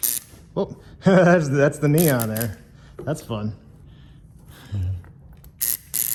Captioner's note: chuckles